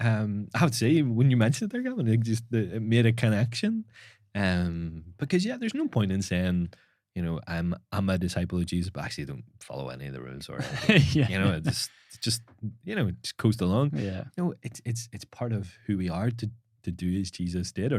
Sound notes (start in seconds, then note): 10.5 laughing